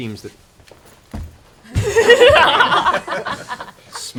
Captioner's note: laughter